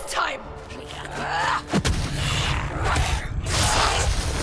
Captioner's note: grunts with exertion; screech